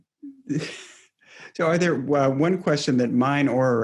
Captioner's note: laughs